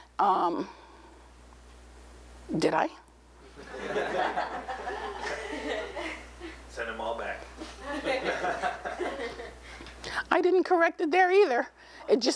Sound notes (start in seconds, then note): 3.5 laughter; 7.7 laughter